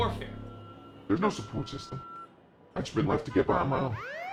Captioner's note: disguised voice